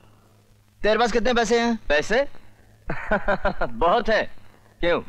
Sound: laughs

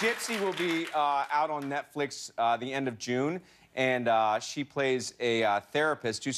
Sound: cheers and applause

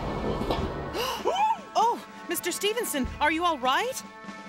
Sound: gasps

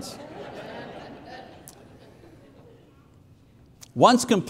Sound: congregation laughing

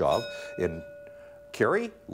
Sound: bell ringing

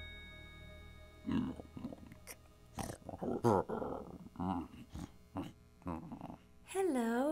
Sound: bear grumbling

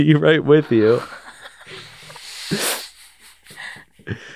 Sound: laughs

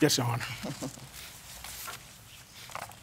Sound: chuckles

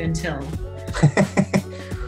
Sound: laughs

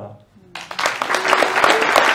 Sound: hand clapping

